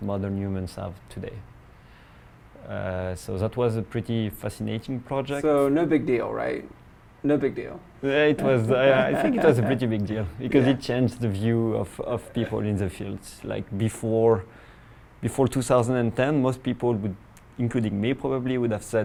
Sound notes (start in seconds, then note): 8.4 laugh